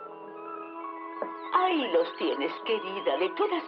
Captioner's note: birds Twittering